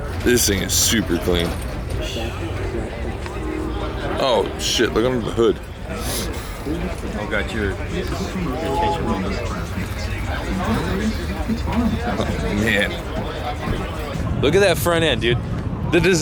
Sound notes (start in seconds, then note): 6.5 background chatter